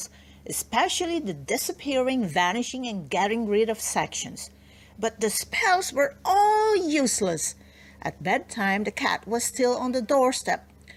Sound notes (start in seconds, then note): none